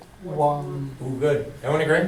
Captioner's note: voiceover